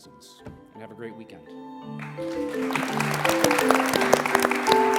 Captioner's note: applause